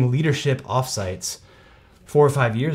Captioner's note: takes a deep breath